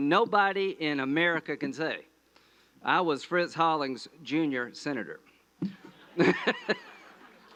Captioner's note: laughter